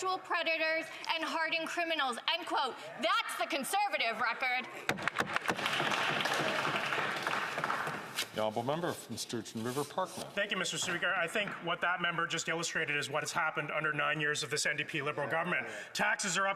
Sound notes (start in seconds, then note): 9.0 some Applause